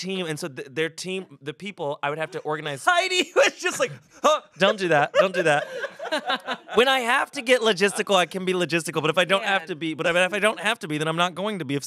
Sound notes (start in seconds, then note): 4.1 laughs; 6.1 everyone laughs